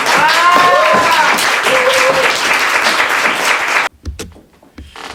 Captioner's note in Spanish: Aplauso